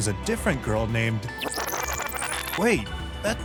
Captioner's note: fast forward sound